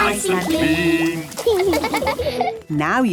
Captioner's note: laughing